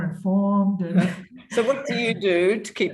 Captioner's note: chuckles